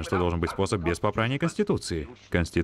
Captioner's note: laughs